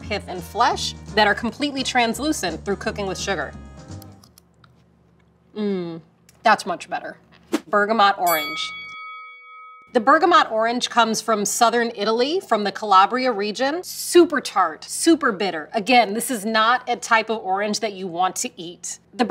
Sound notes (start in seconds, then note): 8.2 bell dings